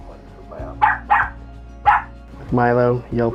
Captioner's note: dog barking